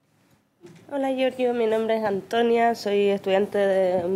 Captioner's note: speaking spanish